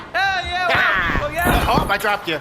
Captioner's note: crashing sound